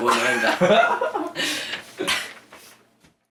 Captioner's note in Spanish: Risas